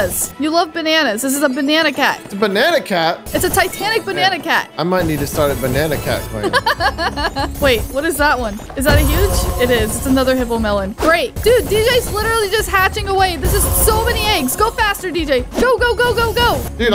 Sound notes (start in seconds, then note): 6.4 giggles